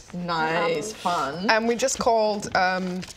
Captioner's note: none